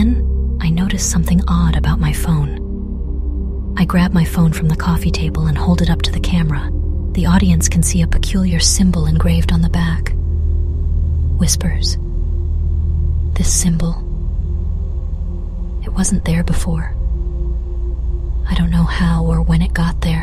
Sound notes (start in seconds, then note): 11.2 whispers